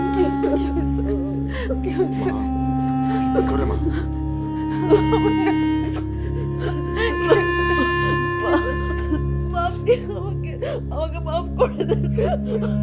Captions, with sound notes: - What happened? What? - Mom, she will be fine. [crying] Mother, forgive me, please...